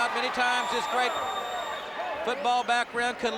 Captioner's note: crowd cheering